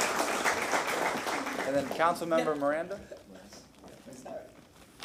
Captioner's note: applause